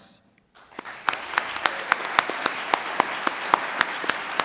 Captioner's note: audience applauds